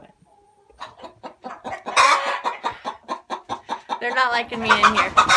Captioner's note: hens clucking and complaining loudly